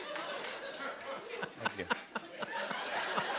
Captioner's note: audience member applauds; laughter